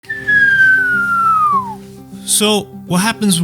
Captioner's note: whistling